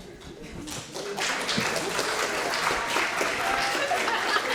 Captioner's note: audience clapping